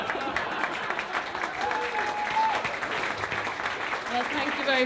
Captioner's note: cheering and Applause